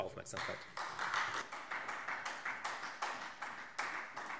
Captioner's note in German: Beifall Freie Demokraten